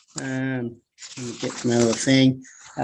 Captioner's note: murmurs